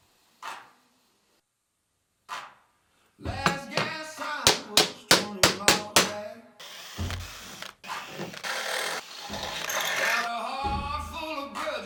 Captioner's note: metal cutting